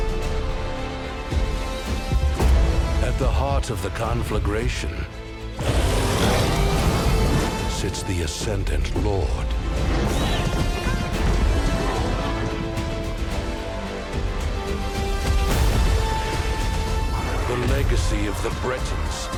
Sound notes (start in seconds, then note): 2.1 dramatic music playing; 5.6 roars; 13.6 animals galloping